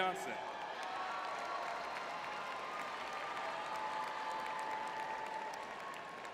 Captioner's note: audience cheering